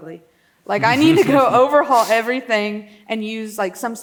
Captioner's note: laughs